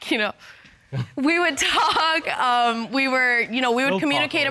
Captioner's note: chuckles